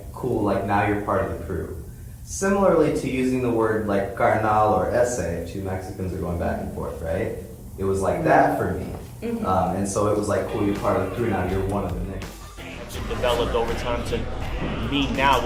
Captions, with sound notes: cool, like now you're part of the crew. Similarly to using the word, like, (speaking in foreign language) if two Mexicans who are going back and forth, right? It was like that for me. And, so it was like cool, you're part of the crew now, you're one of the niggas. - Actually developed over time to mean now